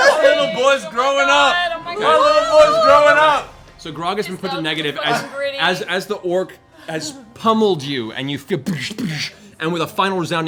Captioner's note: doosh, doosh